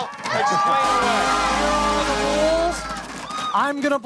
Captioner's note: crowd cheering